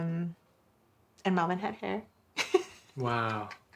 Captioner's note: giggling